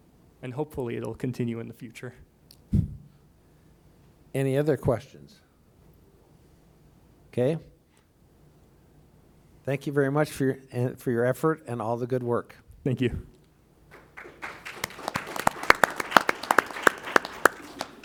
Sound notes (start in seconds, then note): 13.9 applause